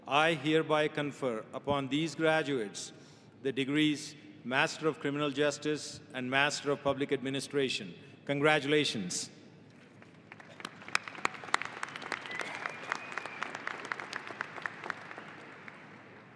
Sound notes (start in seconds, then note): 10.2 audience applauding